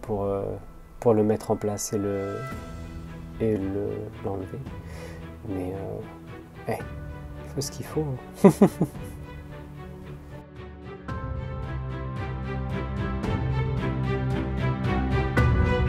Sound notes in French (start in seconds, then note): 8.4 rire; 9.0 musique épique